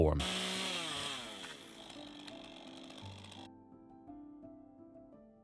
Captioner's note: chainsaw rumbles; gentle music